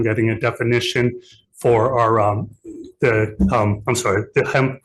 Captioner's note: stammering